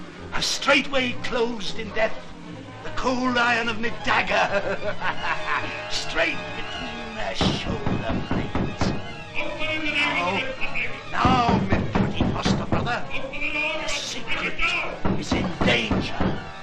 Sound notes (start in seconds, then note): 8.2 knocking